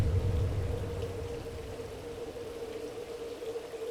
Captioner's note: water splashes